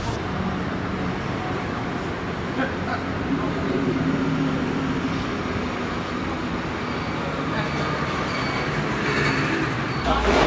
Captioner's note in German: Strassengeräusche